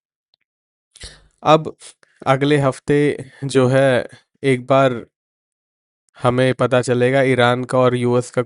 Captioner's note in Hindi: नाक से की जाने वाली आवाज़